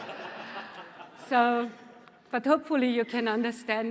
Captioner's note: laughter